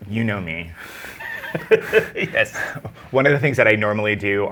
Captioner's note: laughing